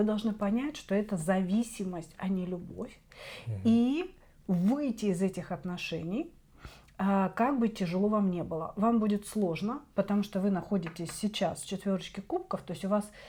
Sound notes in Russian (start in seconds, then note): 3.4 фыркает